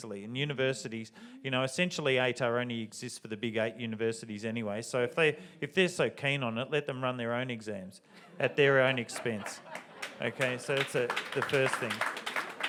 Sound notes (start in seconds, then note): 8.2 audience laughs and applauds